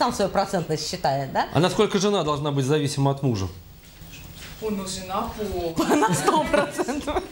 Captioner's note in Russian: смех